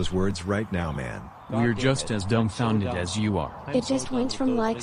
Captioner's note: softly, to himself